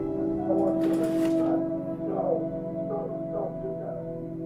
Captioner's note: bed creaking